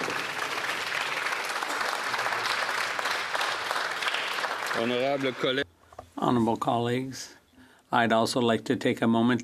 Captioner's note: applause